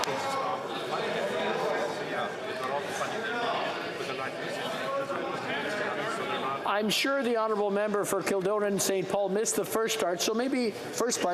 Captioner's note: yelling